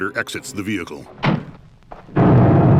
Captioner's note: car door slams